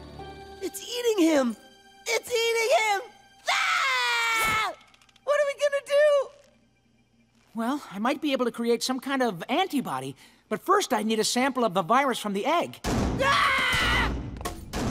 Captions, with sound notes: It's eating him! It's eating him! AAHH! What are we gonna do?! Well, I might be able to create some kind of antibody, but first I need a sample of the virus from the egg. [thudding, screaming]